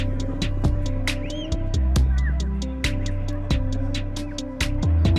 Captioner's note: children chattering